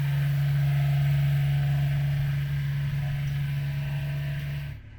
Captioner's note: machine thrumming